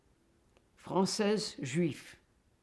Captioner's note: french